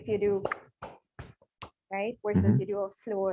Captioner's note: clapping